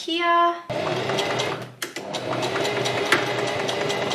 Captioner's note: sewing machine surges